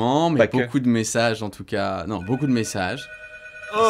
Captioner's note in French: téléphone sonne